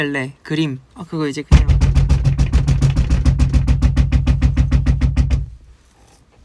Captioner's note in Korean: 문 두드리는 소리